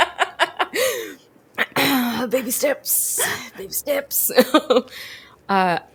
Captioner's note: both laugh; clears throat; laughs